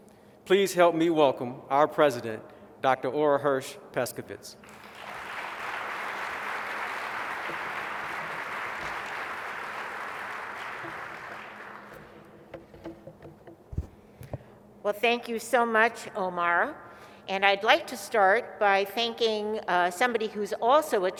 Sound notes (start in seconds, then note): 4.6 applause